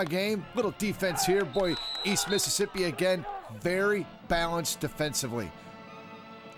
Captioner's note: cheering